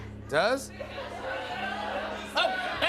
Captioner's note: audience shouting